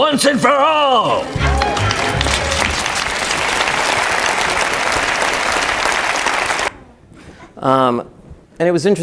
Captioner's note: applause